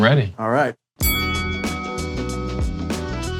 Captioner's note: bell dinging; chill instrumental music